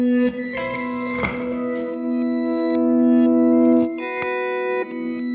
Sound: reversed reverb and echo

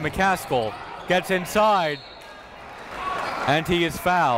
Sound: whistle blows

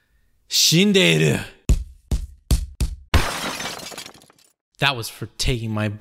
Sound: glass breaks; punches

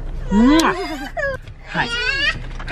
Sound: kissing

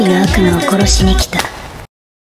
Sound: clap

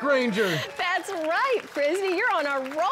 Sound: clapping

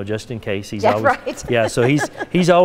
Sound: laughing

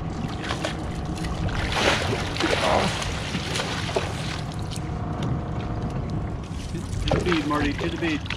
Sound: fish splashing

